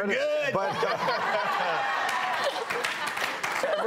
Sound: laughter

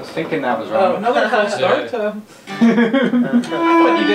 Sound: laughing

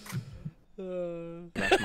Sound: sighs; laughter

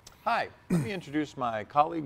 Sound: cough

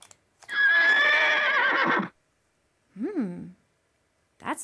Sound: horse neighs

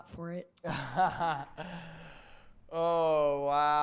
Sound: laughter

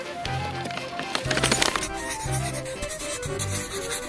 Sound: scribbling

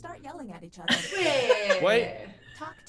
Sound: laugh

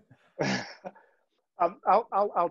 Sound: laughing

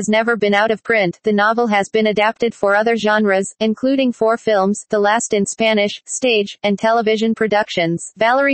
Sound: the last in Spanish

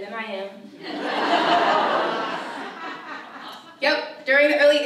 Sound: audience laughs

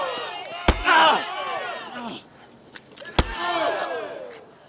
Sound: crowd groaning; blows thudding; blow thuds

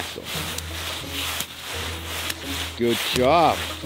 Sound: clothes rustle in snow

